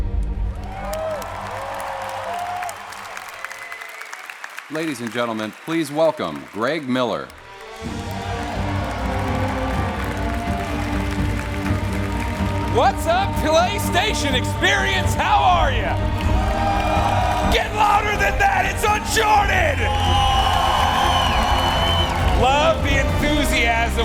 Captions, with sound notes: [ CHEERS AND APPLAUSE ] >> LADIES AND GENTLEMEN, PLEASE WELCOME GREG MILLER. [ APPLAUSE ] >> WHAT'S UP, PLAYSTATION EXPERIENCE! HOW ARE YOU? GET LOUDER THAN THAT? IT'S UNCHARTED! [ CHEERS AND APPLAUSE ] LOVE THE ENTHUSIASM.